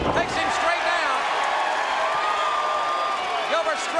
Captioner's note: crowd cheering